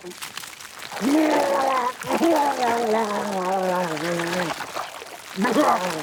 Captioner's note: Walter retching continues